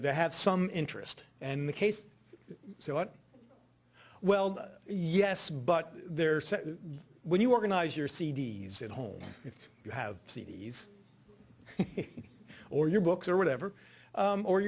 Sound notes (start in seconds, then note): 11.6 laughing